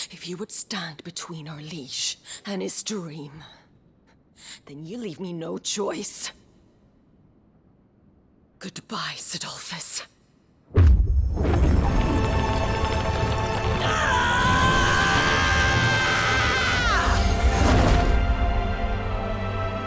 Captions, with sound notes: If you would stand between out liege and his dream, then you leave me no choice. Goodbye, Cidolfus. *DBZ SCREEM*